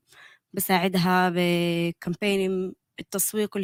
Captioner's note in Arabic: لغة أجنبية